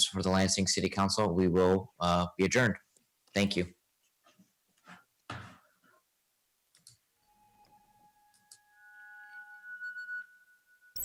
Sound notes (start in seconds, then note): 7.2 soft chiming